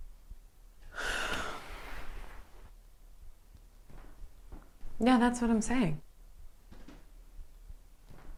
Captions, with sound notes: (Leona sighs) Yeah, that's what I'm saying.